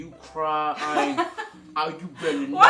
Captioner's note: laughs